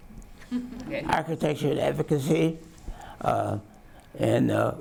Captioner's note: audience chuckles